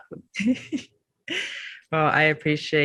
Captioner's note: chuckles